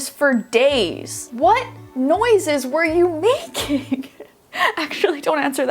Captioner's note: laughing